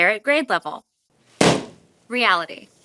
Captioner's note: balloon pops